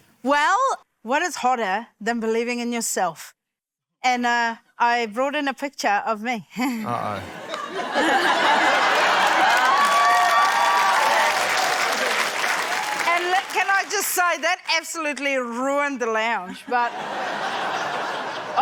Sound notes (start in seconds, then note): 6.6 laughter; 6.8 chuckles; 9.4 cheering, applause; 16.5 laughter